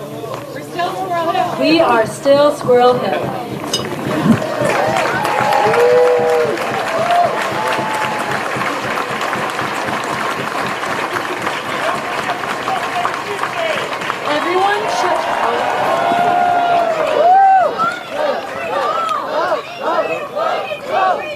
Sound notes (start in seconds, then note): 17.3 cheers and applause